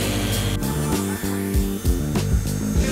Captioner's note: Sägegeräusche